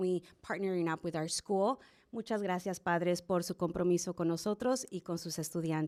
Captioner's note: speaking spanish